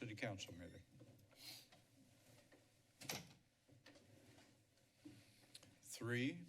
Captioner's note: silence